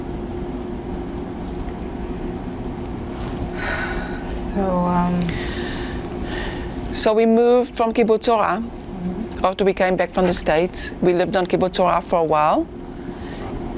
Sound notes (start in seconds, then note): 3.5 sighing